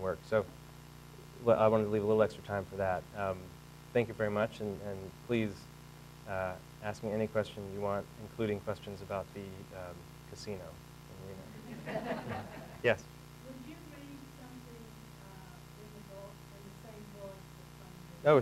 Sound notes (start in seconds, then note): 11.5 audience laughing